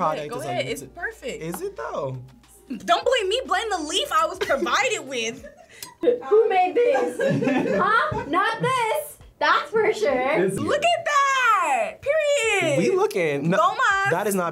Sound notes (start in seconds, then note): 6.7 group laughs